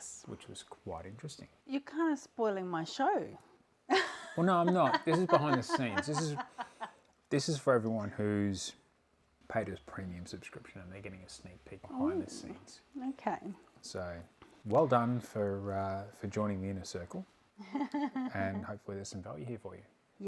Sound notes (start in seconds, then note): 17.6 laughing